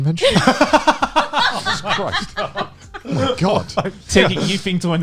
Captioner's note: laughing